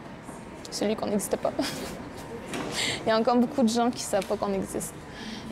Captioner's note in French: rires